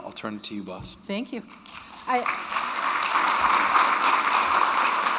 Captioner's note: audience applauding